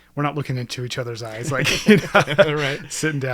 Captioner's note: both laughing